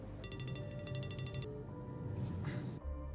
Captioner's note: phone ringing